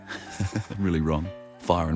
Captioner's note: laughs